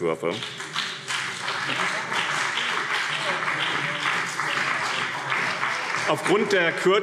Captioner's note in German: Beifall BÜNDNIS 90/DIE GRÜNEN und CDU